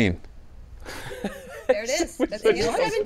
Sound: laughs

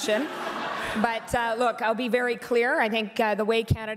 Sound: laughter

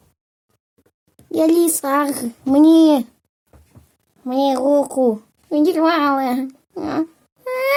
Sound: crying

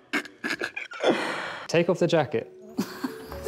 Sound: laughing; laughing

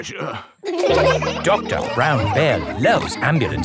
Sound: all laughing

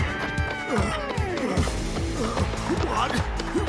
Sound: hacker breathes heavily

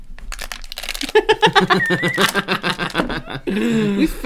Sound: evil Cackles

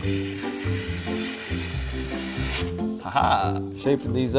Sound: scissors cutting

